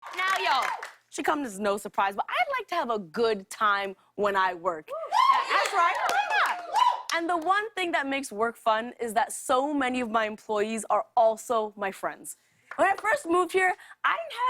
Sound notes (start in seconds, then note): 5.0 cheers and applause